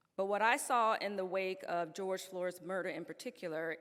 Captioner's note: none